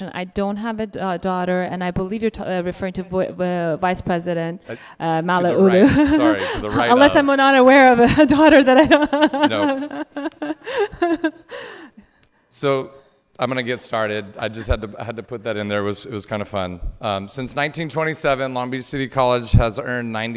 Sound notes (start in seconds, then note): 9.7 laughing